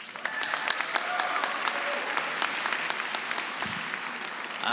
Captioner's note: audience applauding